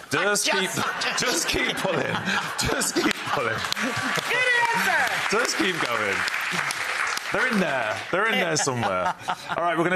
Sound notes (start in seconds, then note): 3.0 audience cheering